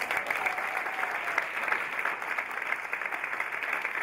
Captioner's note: audience applauding